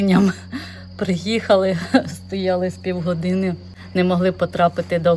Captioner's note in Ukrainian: сміх